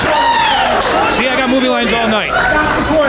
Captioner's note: audience cheering